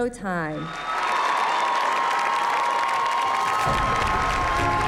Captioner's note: cheers and applause